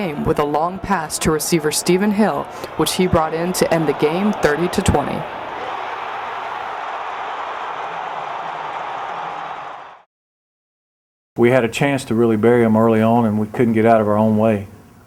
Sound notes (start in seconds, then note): 5.3 crowd noise and cheering